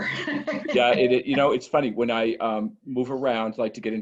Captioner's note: laugh